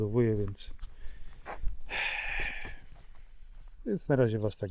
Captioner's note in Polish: wciągnięcie powietrza; westchnienie